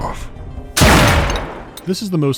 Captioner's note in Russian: блам